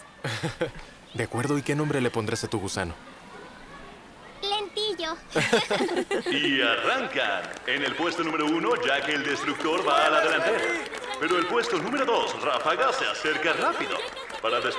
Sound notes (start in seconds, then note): 0.2 Mary laughs; 10.5 group laughs